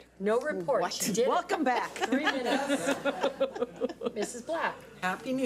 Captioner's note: laughs